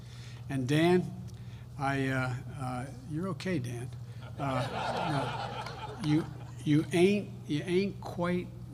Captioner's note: laughter